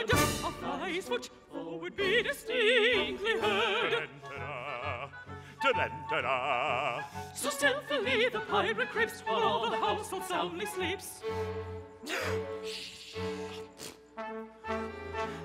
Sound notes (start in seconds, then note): 13.0 gasps